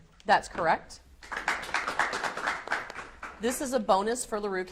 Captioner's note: audience applauds